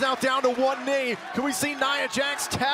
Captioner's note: crowd cheering